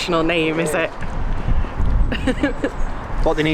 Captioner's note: laughs